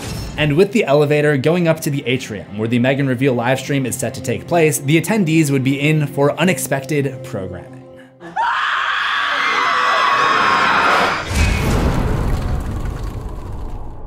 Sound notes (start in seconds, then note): 8.2 screams; 11.2 impact